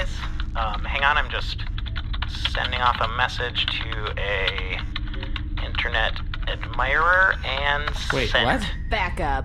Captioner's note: typing